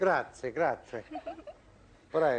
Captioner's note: laughter